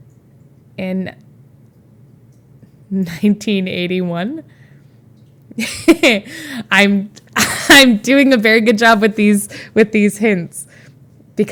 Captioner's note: Emma chuckles